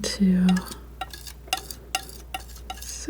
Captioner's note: scratching